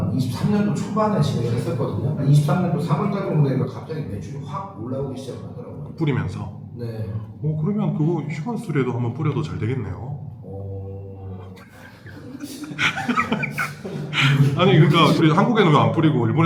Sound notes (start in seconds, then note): 11.6 staff laughing